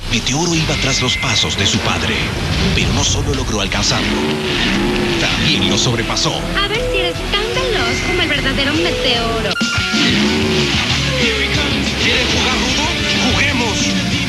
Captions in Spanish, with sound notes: Meteoro iba tras los pasos de su padre, pero no solo logró alcanzarlo: (sonidos de motor) también lo sobrepasó. A ver si eres tan veloz como el verdadero Meteoro. ¿Quieren jugar rudo? ¡Juguemos!